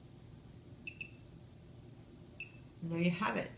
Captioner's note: device beeps